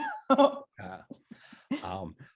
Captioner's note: laughs